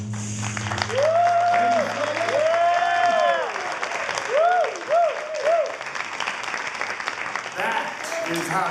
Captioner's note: applause